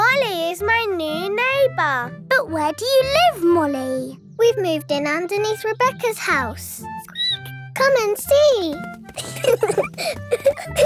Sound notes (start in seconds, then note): 8.7 squeaks; 9.1 both laughing